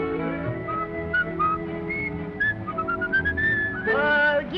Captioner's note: whistling